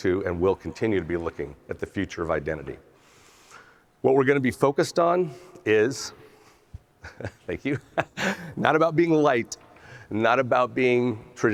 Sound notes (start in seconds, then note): 7.0 laughs